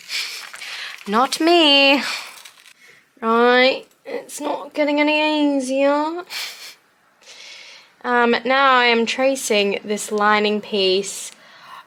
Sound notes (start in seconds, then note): 5.0 lots of awkward laughing/scoffing